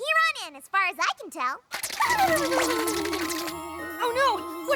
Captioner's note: shudders